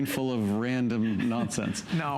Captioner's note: laughter